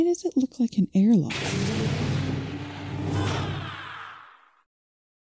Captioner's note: door opening